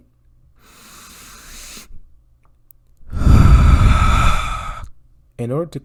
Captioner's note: deep breath in and out in pain